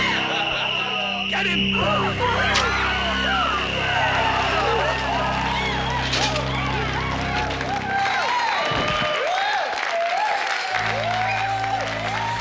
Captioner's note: crowd Cheering; screams; dramatic Music